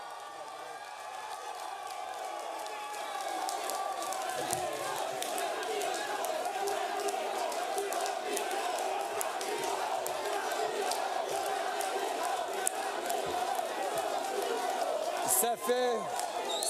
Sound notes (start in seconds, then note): 0.0 speaking in French; 5.3 cheering